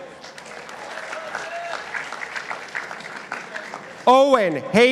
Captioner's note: participants applauding